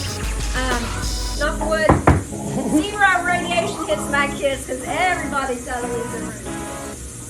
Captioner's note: knock knock